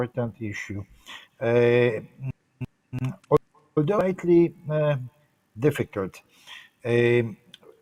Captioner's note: sound distortion 3:20:09